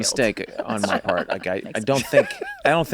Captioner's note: laughs